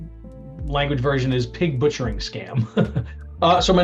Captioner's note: laughs